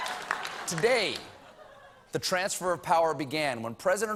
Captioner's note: laughter